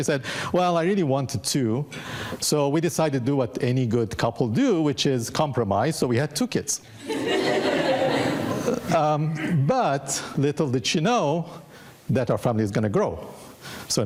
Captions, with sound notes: She said, "Well, I really wanted two." So we decided to do what any good couple do, which is compromise. So we had two kids, (audience laughing) but little did she know that our family is gonna grow.